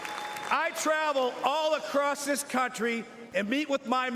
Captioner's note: applause